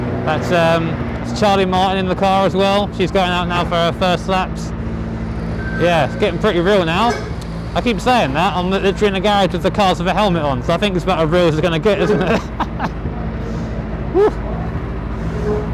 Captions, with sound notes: That's Charlie Martin in the car as well. She is going out now for her first laps. Yeah, it's getting pretty real now. I keep saying that - I'm literally in the garage with the cars and a helmet on so I think this is about as real as it's going to get. [laughing]